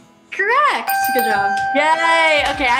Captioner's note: dinging